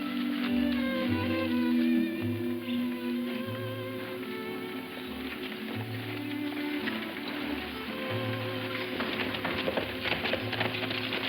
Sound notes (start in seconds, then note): 3.2 wagon rattling